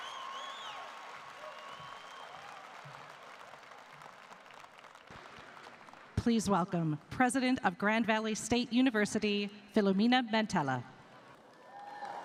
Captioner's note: applause